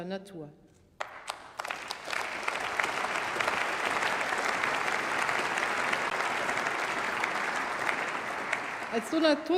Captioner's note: Applause by CDU and by members of the SPD and Greens